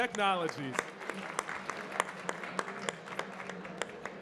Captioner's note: audience clapping